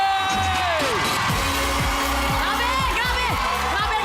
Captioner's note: loud cheering